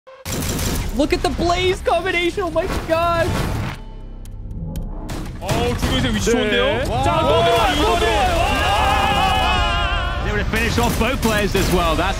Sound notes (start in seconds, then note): 0.2 gun firing; 5.3 casters speaking in foreign language